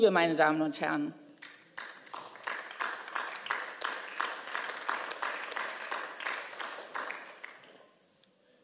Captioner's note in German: Beifall